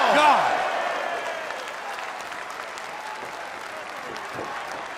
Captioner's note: cheers & applause